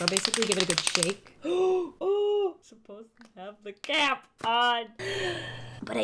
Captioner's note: gasps